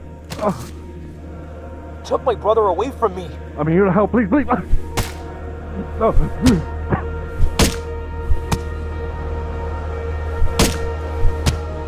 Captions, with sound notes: You took my brother away from me. I'm here to help. please, please, ah... No, please. [Grunting]